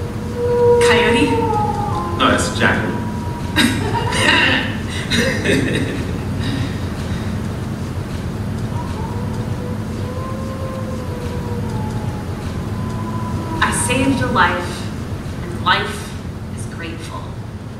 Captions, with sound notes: Coyote? No, it's a jackalope. (COYOTE HOWLS) I saved a life, and life is grateful.